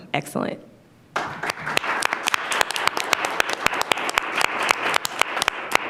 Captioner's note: audience applauding